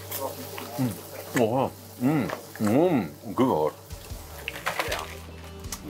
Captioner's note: mumbles contently